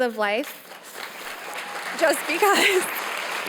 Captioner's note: audience applauds